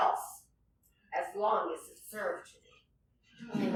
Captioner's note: laughter